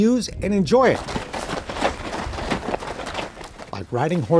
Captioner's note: horses moving